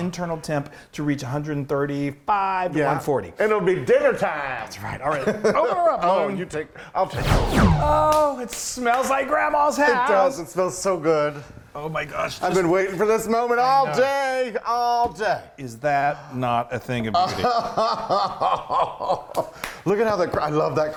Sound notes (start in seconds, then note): 7.1 swooping sound; 7.9 singing; 17.3 gasping and laughing